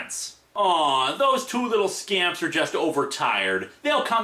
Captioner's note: mocking tone